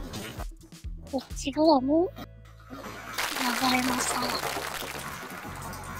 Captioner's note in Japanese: 拍手